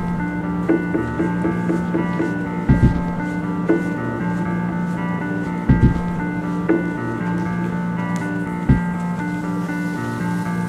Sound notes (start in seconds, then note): 2.6 footsteps